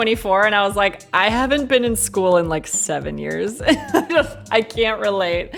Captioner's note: laughs